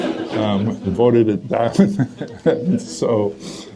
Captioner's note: audience laughter; laughs